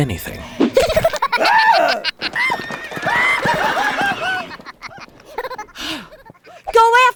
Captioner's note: rat laughing; Sisera screaming